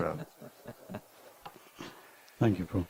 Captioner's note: laughing